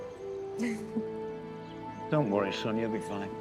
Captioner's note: Josey giggles